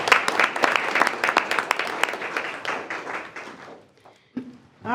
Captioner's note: board applauding